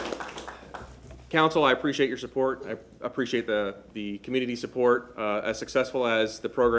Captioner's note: applause